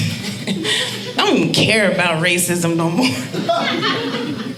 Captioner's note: laughing